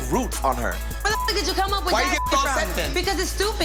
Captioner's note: beep